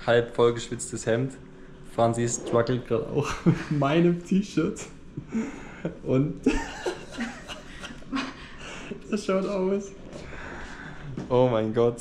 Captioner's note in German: lachen